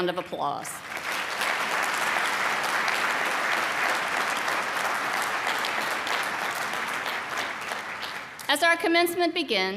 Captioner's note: applause